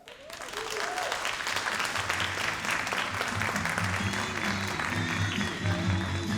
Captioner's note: all applauding and cheering